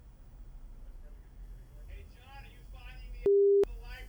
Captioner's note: singsong voice